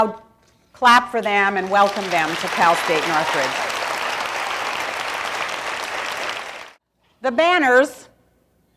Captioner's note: applause